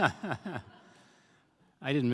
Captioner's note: laughter